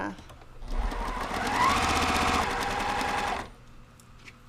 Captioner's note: machine sewing